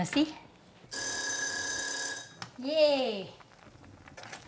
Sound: timer rings

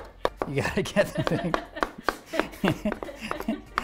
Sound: laughing

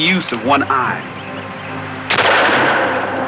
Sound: gun firing

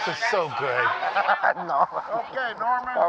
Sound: laughs

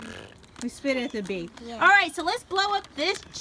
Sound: voiceover

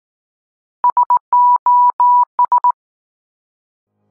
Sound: morse Code

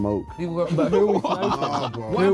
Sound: laughing

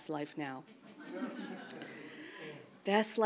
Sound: audience laughs softly

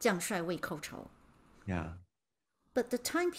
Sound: speaking in Mandarin

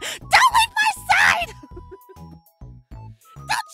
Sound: chuckles

